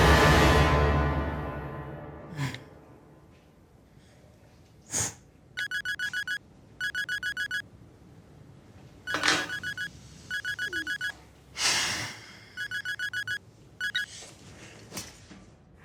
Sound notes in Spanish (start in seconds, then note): 1.2 Suena el celular